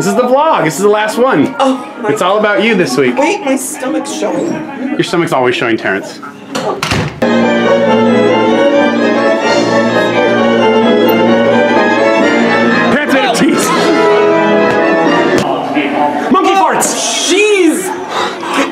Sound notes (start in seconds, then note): 6.5 door closes; 7.2 symphonic music